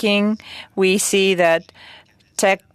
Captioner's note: speaking french